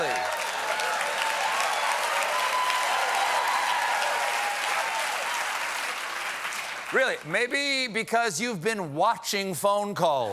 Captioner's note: cheers and applause